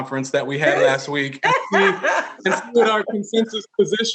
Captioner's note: laughing